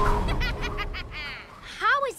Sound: evil laugh

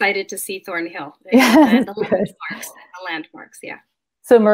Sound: chuckles

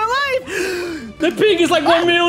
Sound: gasp

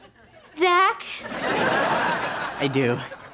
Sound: laughing

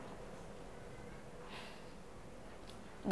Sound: sighs

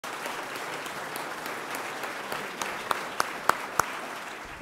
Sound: applause

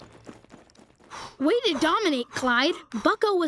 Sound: panting

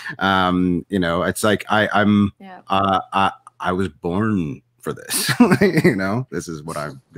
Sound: laughs

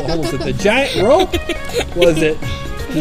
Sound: assistant laughs

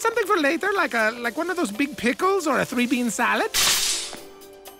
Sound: crashing noise

